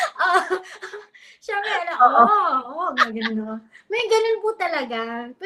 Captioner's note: laughs; speaks in Filipino